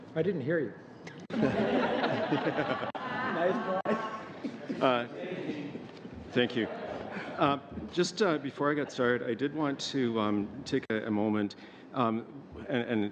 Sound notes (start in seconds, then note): 6.1 laughing